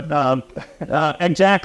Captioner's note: laugh